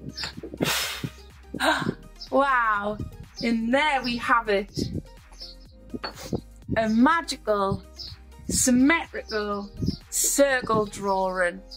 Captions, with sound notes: (blows loudly) (gasps) Wow, and there we have it. A magical symmetrical circle drawing.